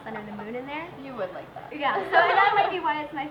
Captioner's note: laughs